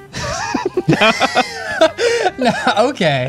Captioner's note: laughing; pat